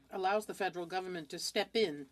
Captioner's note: speaking French